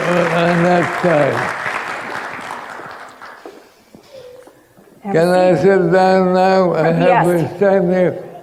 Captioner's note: applause